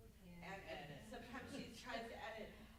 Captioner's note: group laughs; group members murmuring